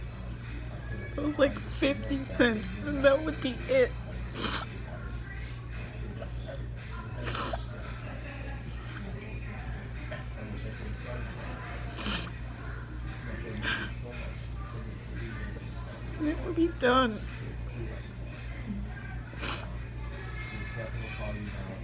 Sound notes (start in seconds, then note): 9.8 crying